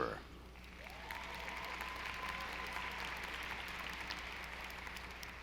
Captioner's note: audience applauding